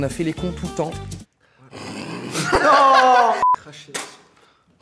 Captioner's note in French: rires